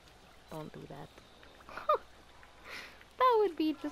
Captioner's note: laughs